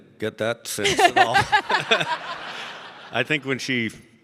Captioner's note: all laughing